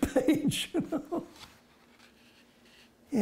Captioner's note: laughs